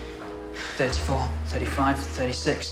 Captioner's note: exhales